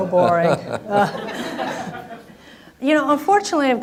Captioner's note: laughing